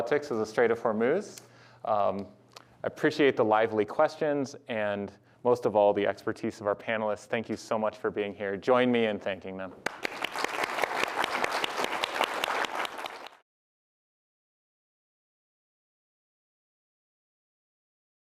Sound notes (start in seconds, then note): 9.8 applause